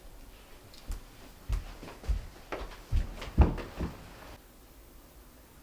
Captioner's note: footsteps, rustling